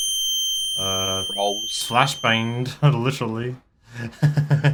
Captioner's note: chuckles